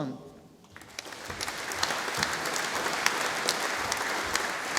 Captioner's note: audience applauding